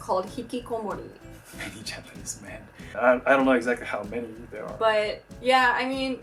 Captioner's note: laughing